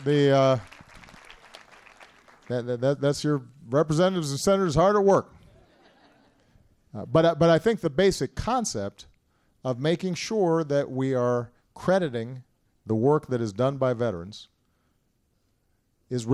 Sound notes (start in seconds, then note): 0.0 applause; 5.4 laughter